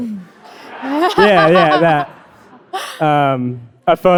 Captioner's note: audience laughing